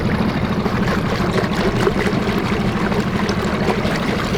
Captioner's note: boat engine running